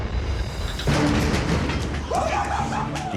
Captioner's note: all cheering